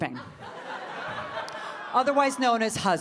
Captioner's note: audience laughing